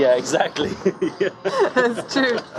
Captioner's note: laughter